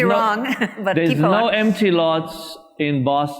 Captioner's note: laughs